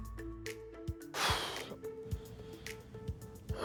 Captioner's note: exhales